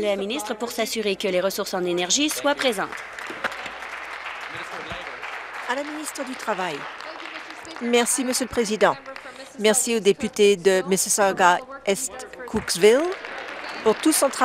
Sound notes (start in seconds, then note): 6.1 applause